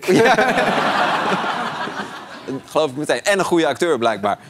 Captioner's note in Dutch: gelach